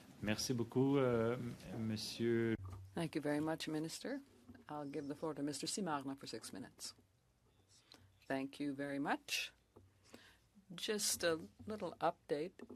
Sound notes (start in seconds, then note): 5.9 speaking French